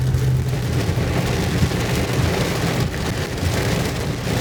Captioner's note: strong rain noise